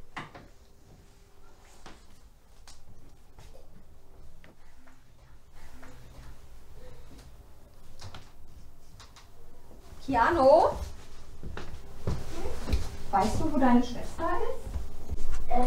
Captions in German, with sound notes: *seufzt* "Kiano?" "Hm?" "Weißt du, wo deine Schwester ist?"